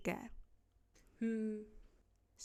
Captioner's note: hmm!